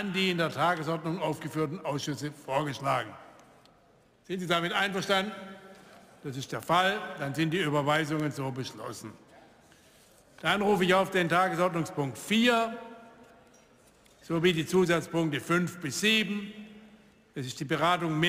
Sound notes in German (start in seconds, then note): none